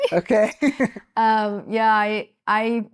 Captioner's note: laughing